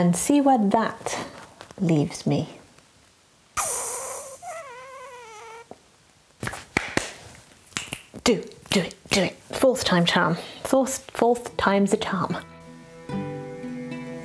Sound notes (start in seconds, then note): 4.8 clapping & clicking